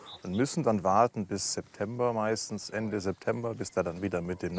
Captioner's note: none